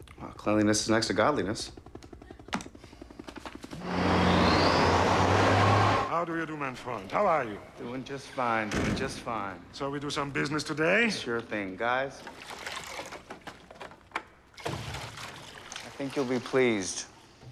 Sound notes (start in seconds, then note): 2.5 pen clicks; 3.8 engine revving; 12.0 liquid pouring